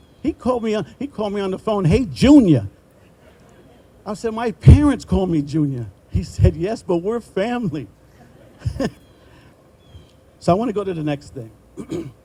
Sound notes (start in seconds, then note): 3.6 group laughing; 8.1 chuckling